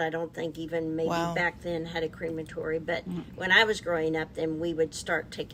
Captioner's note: none